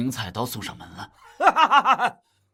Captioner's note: laughs